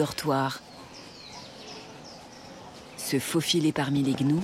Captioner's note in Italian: cinguettii